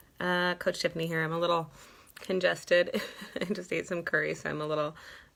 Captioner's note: chuckles